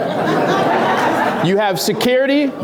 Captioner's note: laughs